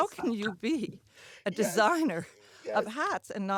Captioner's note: laughs